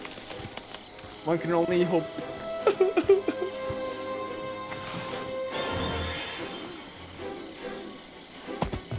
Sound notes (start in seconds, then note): 2.6 crying